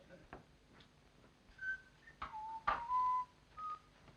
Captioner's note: whistling